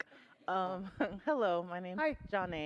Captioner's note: chuckles